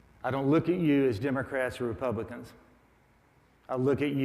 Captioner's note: none